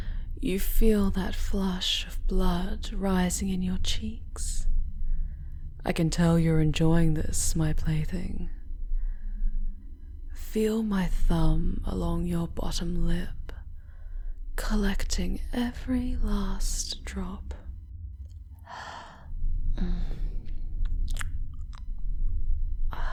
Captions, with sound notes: You feel that flush of blood rising in your cheeks? I can tell you're enjoying this, my play-thing. Feel my thumb along your bottom lip, collecting every last drop... *A hot, exhaled breath* *A soft moan as she sucks your blood from her finger*